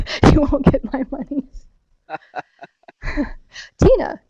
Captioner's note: laughs; laughing